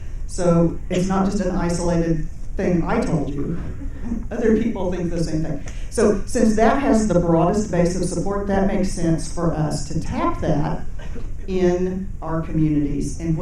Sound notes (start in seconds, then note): 3.5 audience chuckling